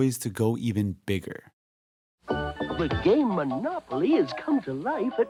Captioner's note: soundbite of archived recording